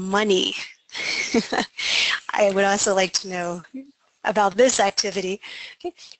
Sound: laughing

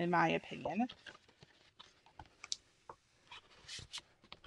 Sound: paper rustles

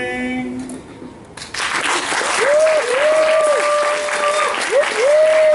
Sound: applause

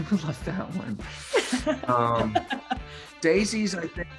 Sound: Daisy laughs

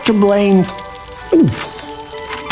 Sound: gulp

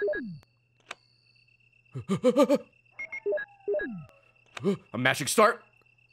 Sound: stress noises

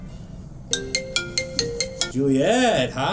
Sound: phone Rings

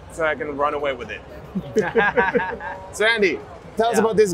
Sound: both laughing

